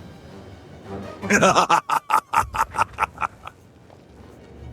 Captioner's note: laughter